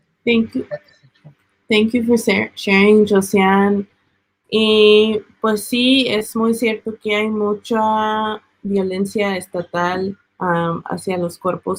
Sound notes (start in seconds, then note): 4.6 speaking Spanish